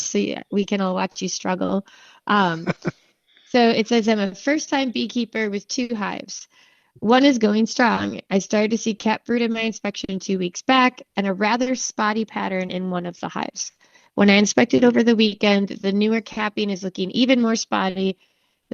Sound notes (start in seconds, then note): 2.4 laughing